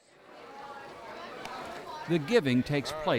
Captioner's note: distant chatting